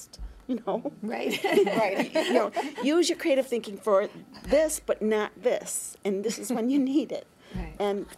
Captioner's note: laughter